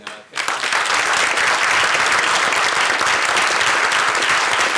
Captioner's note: applause